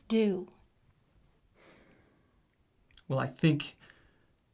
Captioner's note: sighs